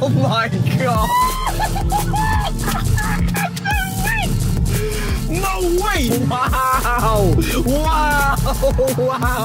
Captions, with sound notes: [whooping] - No way, no way. - Wow, wow, wow, wow,